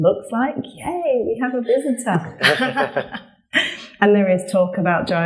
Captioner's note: laughs